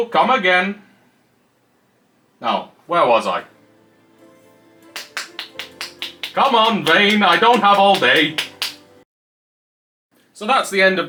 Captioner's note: sound of patting arm